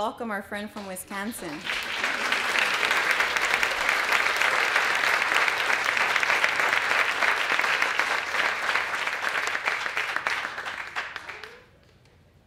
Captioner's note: applause